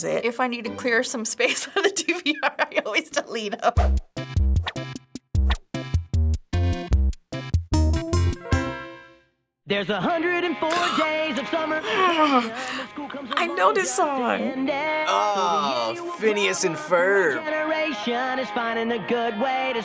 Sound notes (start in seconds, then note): 3.9 quirky interlude; 10.7 grumbling